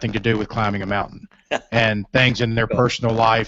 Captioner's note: laughter